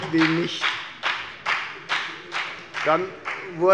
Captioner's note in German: Beifall bei der FDP